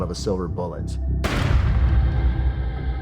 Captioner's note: gunshot